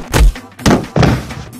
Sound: punch; thud

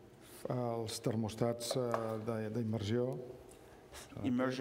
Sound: speaking catalan

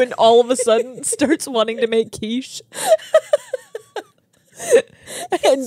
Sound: laughs

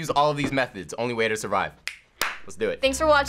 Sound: snaps and claps

